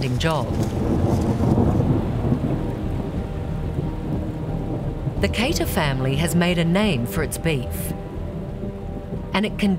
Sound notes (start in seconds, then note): 0.8 thunder rumbles